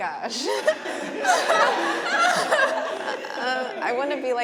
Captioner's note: everyone laughing